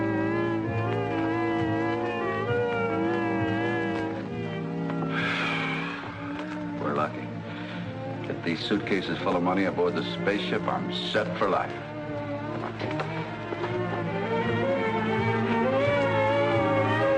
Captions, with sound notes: - (sigh) We're lucky that these suitcases full of money aboard this spaceship- I'm set for life. (dramatic music)